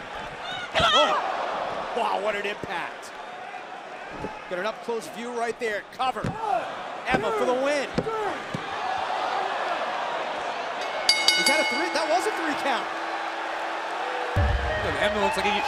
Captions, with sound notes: >> GRABBED A FIST FULL OF HAIR MOMENTS AGO. AND BECKY. OH, WHAT AN IMPACT. GOT AN UP CLOSE VIEW RIGHT THERE. COVER. EMMA FOR THE WIN. [BELL RINGING] >> IS THAT THREE? THAT WAS A THREE-COUNT.